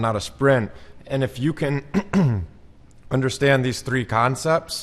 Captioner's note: clears throat